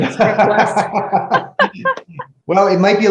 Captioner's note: both laughs